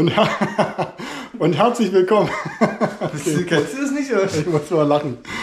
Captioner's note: laughing